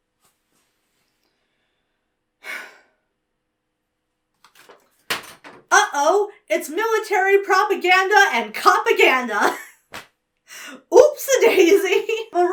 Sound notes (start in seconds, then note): 2.4 sighs; 11.3 laughs